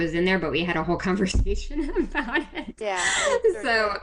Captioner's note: laughter